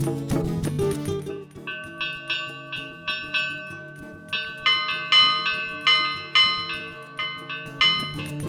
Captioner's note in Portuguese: som de sino